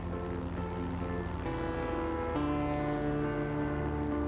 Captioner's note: airplane hums; optimistic music continues